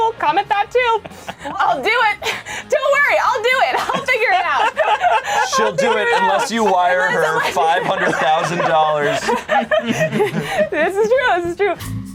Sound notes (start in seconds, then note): 4.5 laughs; 11.8 slow bossa nova music